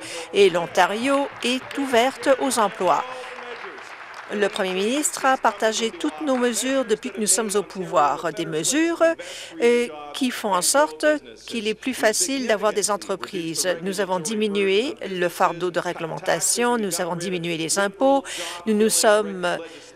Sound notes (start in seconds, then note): 4.0 applause